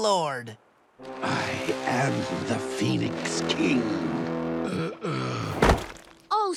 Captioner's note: groaning